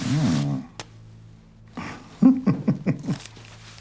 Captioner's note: laughs